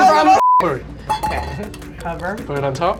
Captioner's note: beep